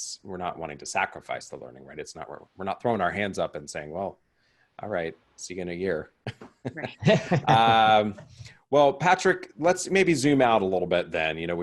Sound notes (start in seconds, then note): 6.3 laughing